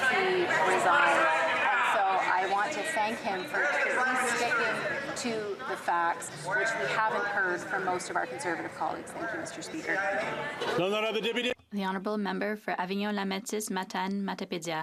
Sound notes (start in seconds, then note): 4.0 yelling